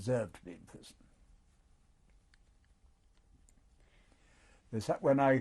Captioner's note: pauses for 3 seconds